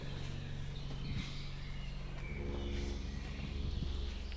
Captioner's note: birds chirping